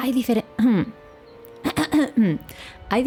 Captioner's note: ahem!; ahem! Ahem! Ahem!